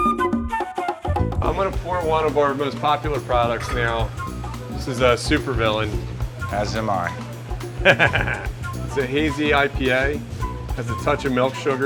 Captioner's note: evil laughter